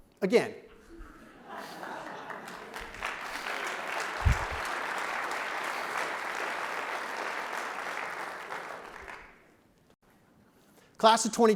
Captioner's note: clapping